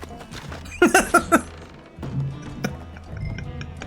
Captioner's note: laughs